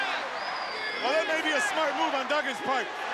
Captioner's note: crowd chants "USA"